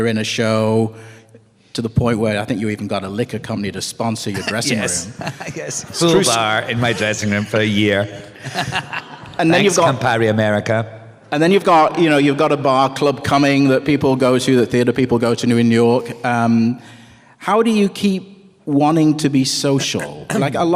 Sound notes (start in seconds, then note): 4.3 laughs; 8.7 laughter